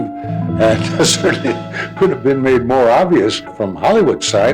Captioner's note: laughs